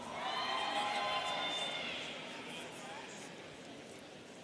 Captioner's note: students cheering